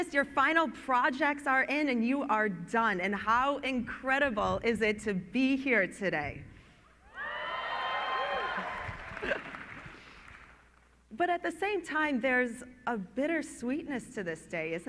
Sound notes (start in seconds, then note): 8.0 clapping